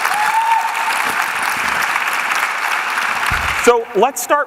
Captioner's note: applause